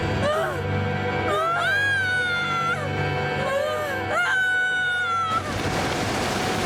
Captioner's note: screaming